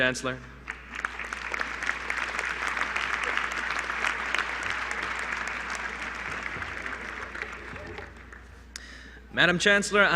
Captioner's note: applause